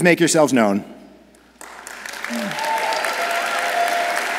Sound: audience applauds

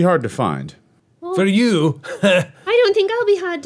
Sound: scoffs

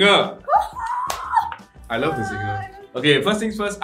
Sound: squeals

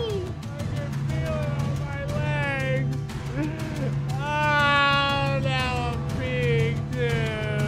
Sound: suspenseful music; crying

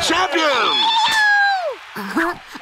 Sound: cheering

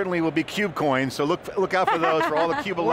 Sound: laughter

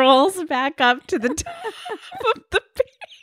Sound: laughing

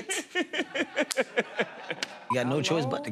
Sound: laughter

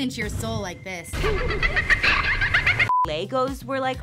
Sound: creepy child laughter

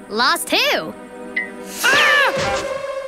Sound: screaming

